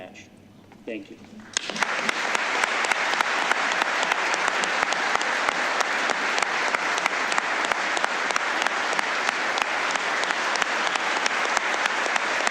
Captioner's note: applause